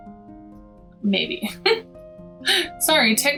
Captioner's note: chuckling